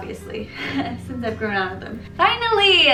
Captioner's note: laugh